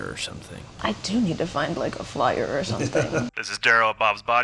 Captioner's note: host laughs